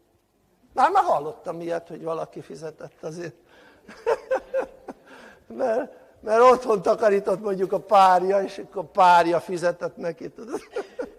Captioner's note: laughter